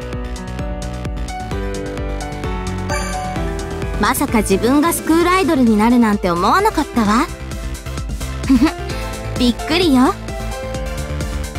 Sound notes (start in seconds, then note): 8.4 giggle